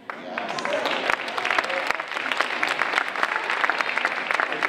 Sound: audience applauding

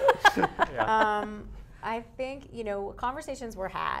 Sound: all laughing

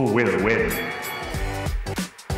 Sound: bell dings

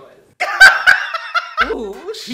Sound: laughs

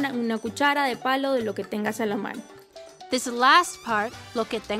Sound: speaks in Spanish

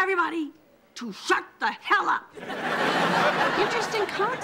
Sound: audience laughing

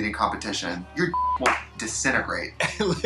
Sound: beep

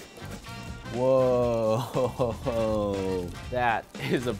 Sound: upbeat music; laughs

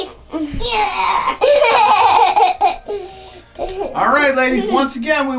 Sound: laughter

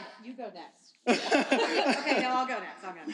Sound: laughing

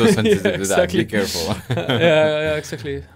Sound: laughs

